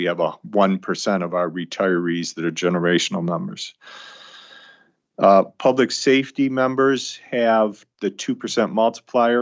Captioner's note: sighs and gasps